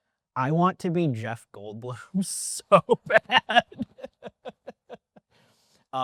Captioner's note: laughs